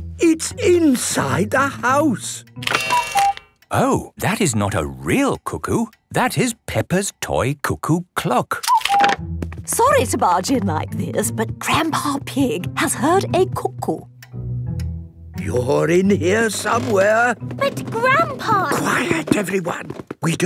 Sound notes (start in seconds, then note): 2.8 cuckoo clock